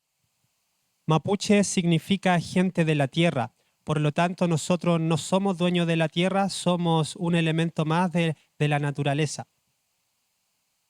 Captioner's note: speaking Spanish